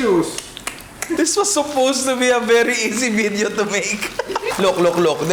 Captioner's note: laughs